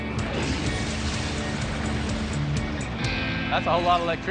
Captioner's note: sizzling